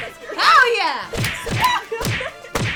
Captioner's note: whip cracks; screams